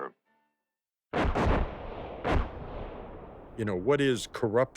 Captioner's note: bombs exploding